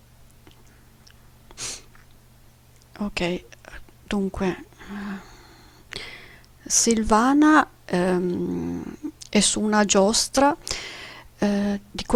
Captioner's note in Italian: sbuffare